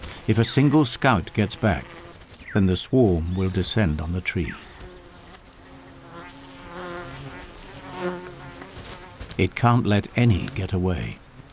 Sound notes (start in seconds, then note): 4.5 bee buzzing; 11.3 bees buzzing